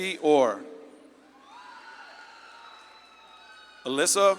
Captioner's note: audience claps and cheers